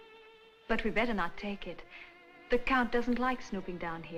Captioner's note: none